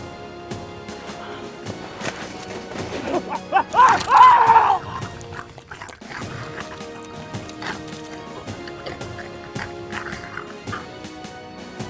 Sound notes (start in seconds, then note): 3.0 screams